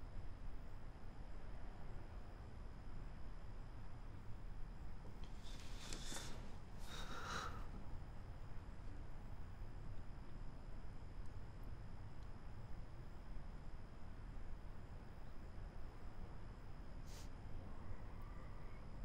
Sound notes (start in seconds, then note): 6.8 sigh